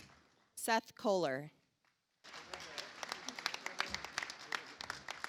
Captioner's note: audience applauds